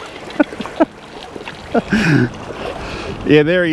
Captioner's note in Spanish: Risas